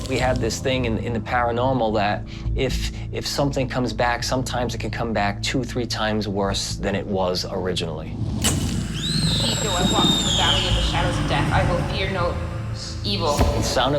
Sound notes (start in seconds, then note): 8.9 screams